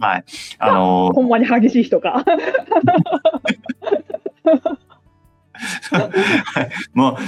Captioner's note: laughs